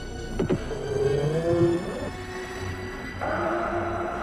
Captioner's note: engine humming